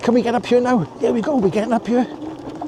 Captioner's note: laughs